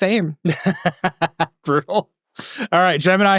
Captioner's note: laughing